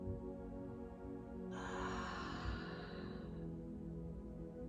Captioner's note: exhaling deeply